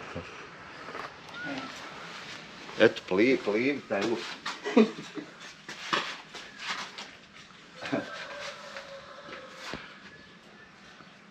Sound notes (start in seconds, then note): 4.5 laughs